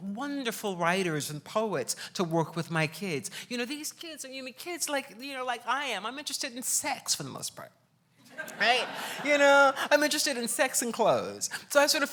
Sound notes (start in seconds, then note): 8.3 laughs